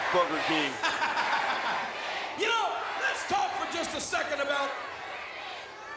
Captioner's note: laughs